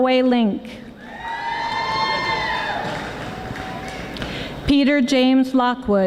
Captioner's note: audience applauding